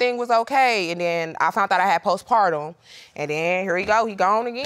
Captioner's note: none